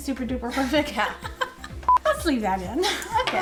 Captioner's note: laughing